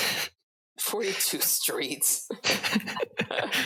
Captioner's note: laughs